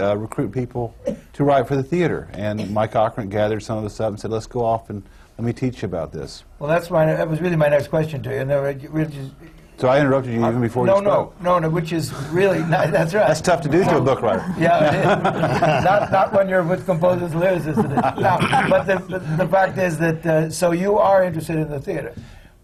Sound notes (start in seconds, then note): 11.7 laughter; 14.4 laughter